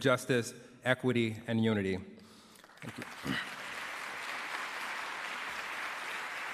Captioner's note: applause